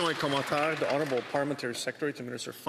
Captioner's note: some Applause